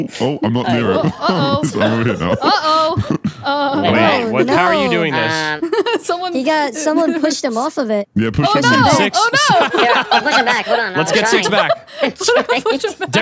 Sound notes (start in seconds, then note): 8.5 contestants laughing